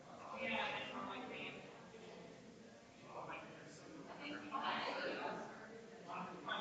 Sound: people chattering distantly continues

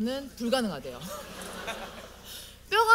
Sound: audience : Laugh

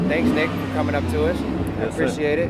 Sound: truck revs

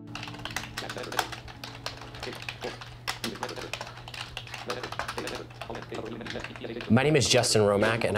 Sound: braille machine speaking

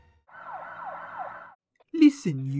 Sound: police sirens

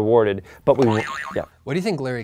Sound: boing

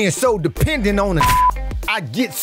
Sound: beep

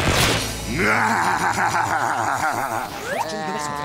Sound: laughing

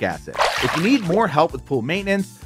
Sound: water splashing

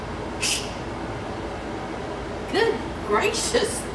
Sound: vent hisses

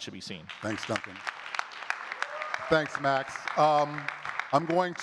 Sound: audience claps and cheers

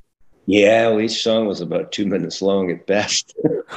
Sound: laughs

